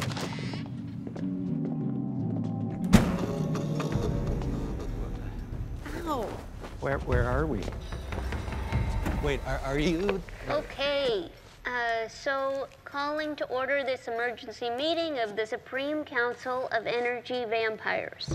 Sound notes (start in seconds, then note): 2.8 door slams; 4.0 lights buzzing